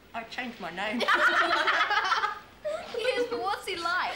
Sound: children laughing

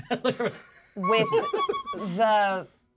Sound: laughs

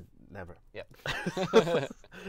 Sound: laughs

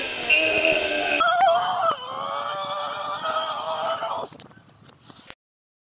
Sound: screaming

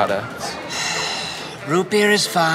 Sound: sighs

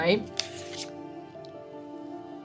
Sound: pen clicking; page turning

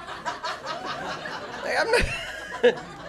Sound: laughter

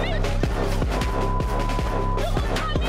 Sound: tense trumpet music; beeps

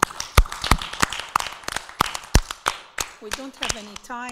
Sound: applauding

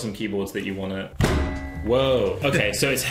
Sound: bang

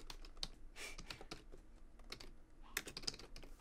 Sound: chuckling

